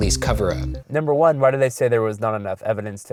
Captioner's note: voiceover